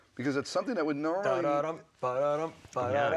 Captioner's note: vocalizing